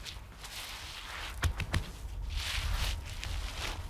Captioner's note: soft knocking, rustling